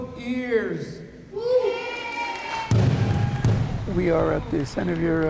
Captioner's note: crowd cheers